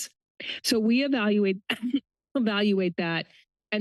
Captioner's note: coughs